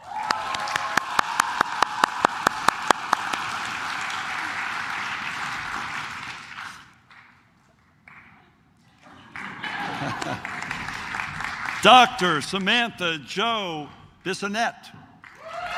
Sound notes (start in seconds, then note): 0.0 claps; 9.1 laughs; 15.2 claps